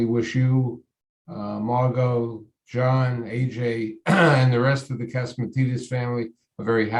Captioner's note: clears throat